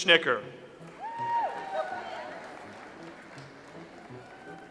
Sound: audience applauds

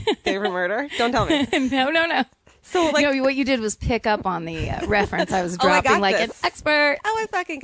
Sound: laughs

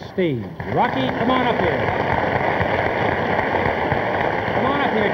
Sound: audience applauding

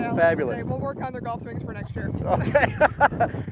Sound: laughs

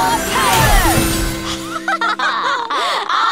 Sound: laughing

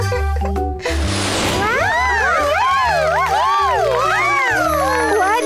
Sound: people cheering

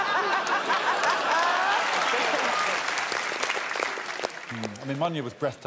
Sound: crowd applauds and cheers

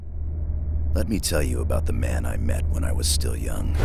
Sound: game audio

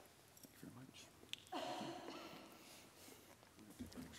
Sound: whispering

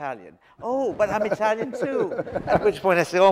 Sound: audience laughs

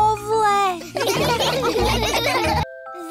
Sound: all laugh

